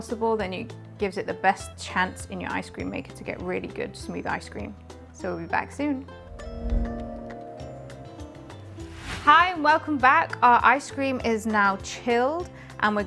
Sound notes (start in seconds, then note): 6.6 screen chimes